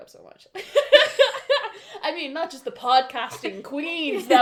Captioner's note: laughter